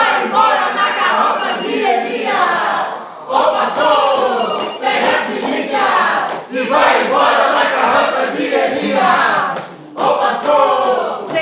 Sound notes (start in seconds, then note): 0.8 phone ringing; 5.5 choir continues